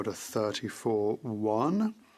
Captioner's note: speaking French